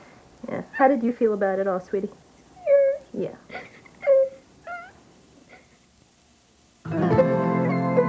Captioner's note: crying